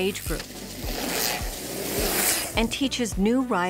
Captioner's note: bikes riding past